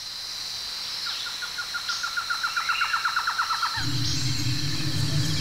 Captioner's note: birds chirping